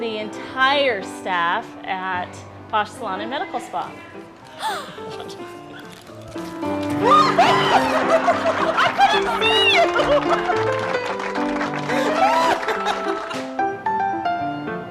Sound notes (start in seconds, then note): 7.1 laughter